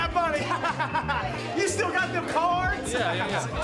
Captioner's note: laughs